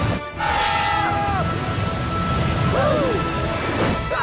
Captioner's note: screaming